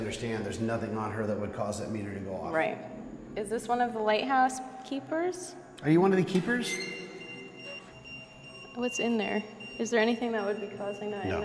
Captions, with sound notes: there's nothing on her that would cause that meter to go off. Right. Is this one of the lighthouse keepers? - Are you one of the keepers? - [EMF beeping] [EMF beeping] What's in there? Is there anything that would be causing that in there?